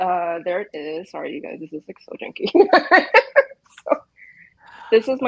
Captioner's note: laughs